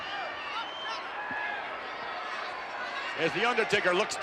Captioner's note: crowd clamors